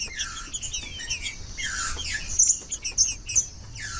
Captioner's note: trinca ferro cantando